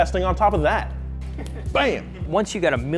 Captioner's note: laughing